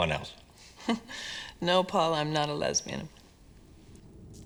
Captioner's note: chuckles